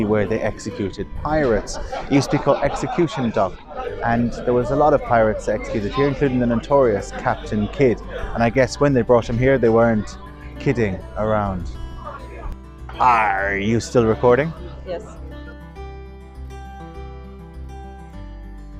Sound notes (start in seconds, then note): 13.0 pirate voice